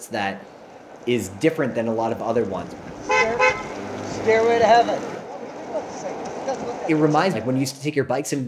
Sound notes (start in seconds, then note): 2.5 car hooting